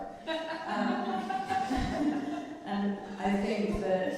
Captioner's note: laughing